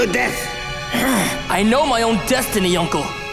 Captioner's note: groaning